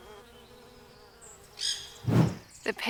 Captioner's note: parrot shriek